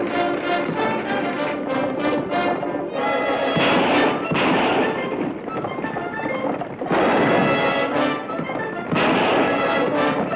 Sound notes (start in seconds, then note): 3.5 gun fires; 6.9 gun fires